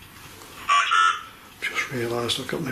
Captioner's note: Voice on Ovilus